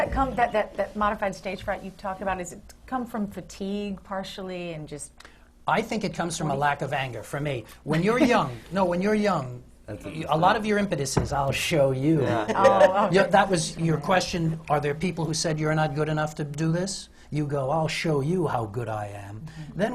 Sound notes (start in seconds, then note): 8.1 laughs